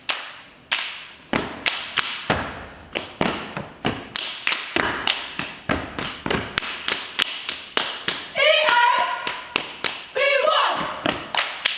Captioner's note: rhythmic clapping and stomping